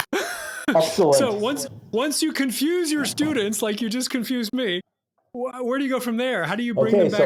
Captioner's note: chuckle